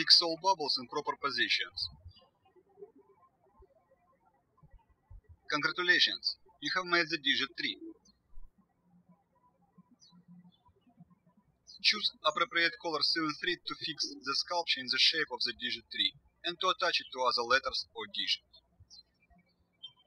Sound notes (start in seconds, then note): 3.2 birds chirping; 9.7 birds chirping